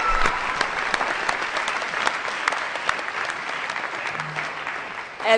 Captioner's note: applause